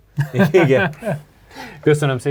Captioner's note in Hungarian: nevetés